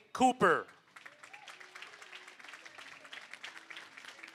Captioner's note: applause